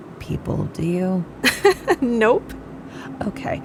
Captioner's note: laughing